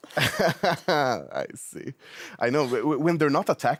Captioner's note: laughs